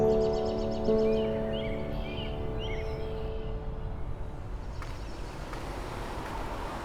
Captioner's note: light instrumental music; birds chirping